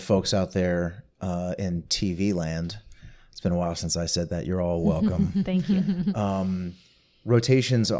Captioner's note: chortling